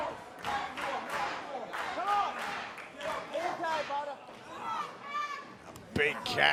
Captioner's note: fans chanting